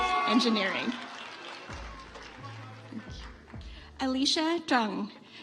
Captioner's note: audience applauds